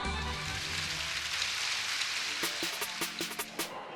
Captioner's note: audience applauds